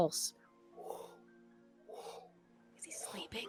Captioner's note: pulsing